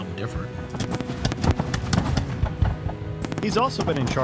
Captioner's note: fireworks popping